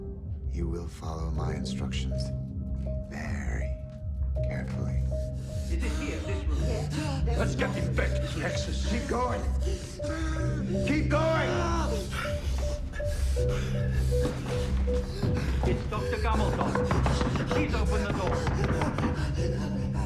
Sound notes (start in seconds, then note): 9.6 Palle pants and groans; 16.3 frantic knocks